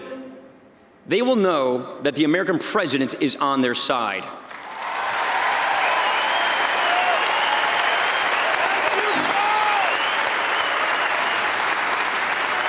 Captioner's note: applause